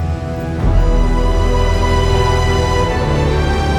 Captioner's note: wind noise, traffic